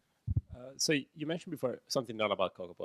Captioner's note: voiceover